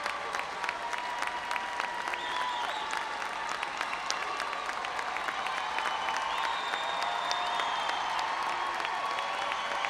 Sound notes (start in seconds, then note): 3.4 audience applauding and cheering